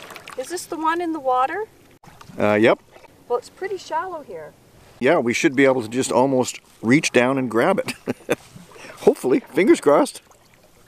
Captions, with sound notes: -Is this the one in the water? -Uh, yep. -Well it's pretty shallow here. -Yeah, we should be able to just almost, reach down and grab it. [chuckles] Hopefully. Fingers crossed.